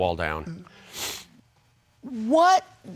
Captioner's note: sniffs